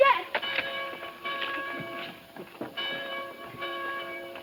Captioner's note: bells ringing